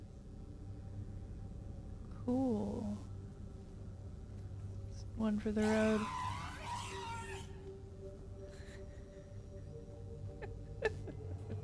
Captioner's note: laughter